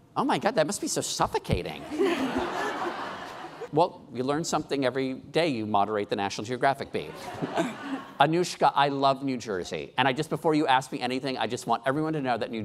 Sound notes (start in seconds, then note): 1.8 laughing